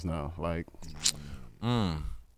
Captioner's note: sucks teeth